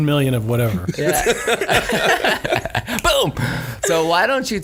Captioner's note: laughing